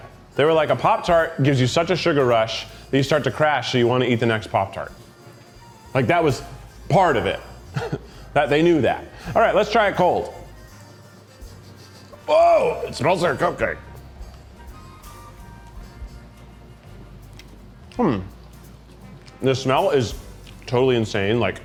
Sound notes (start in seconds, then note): 10.4 sniffing; 14.6 lively music